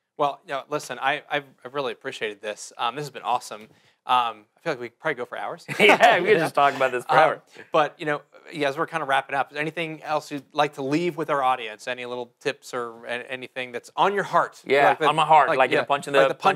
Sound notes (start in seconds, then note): 5.7 laughs